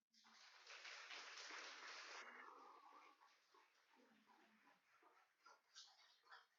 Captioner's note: applauding